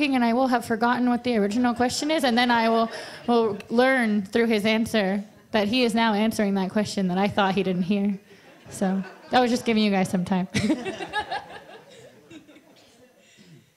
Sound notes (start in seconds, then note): 10.6 laughs